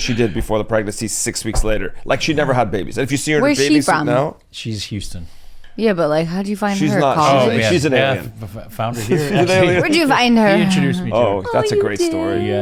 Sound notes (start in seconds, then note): 8.5 laughs; 10.6 chuckles